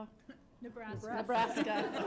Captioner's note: laughter